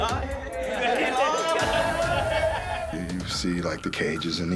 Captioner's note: laughing